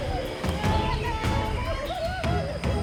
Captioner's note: cheering and laughing